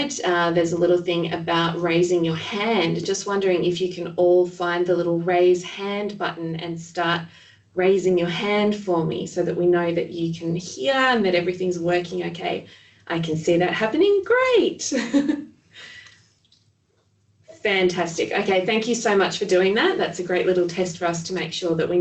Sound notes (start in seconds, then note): 14.6 laughs